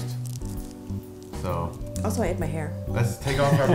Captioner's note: laughter